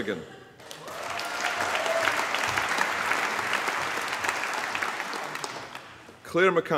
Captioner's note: applause